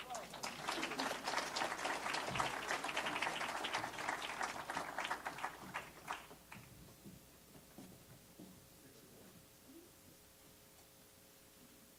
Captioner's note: applause